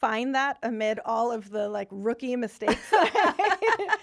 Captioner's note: laughing